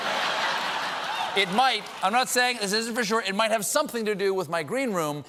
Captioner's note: laughter